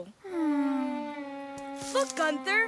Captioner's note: sighing